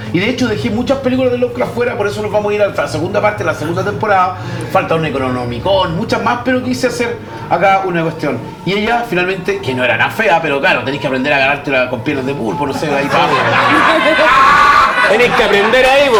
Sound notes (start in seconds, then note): 12.4 laughs